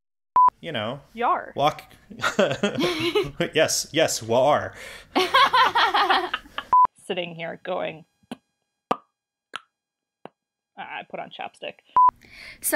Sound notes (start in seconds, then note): 5.2 ALL laugh; 8.4 attempts to make click sounds